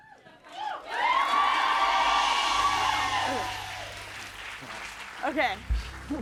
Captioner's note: cheers and applause